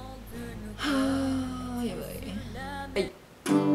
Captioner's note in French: soupire